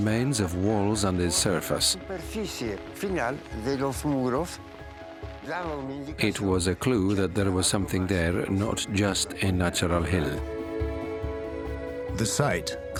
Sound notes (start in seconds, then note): 3.3 speaking Spanish